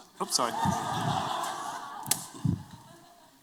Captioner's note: laughter